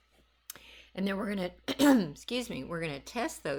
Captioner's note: coughs